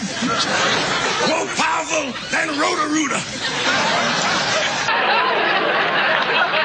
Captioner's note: laughter